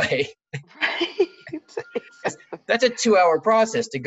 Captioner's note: both laugh